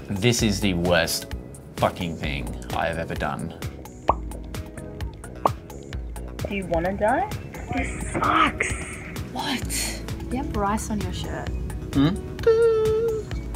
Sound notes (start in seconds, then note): 4.0 popping noises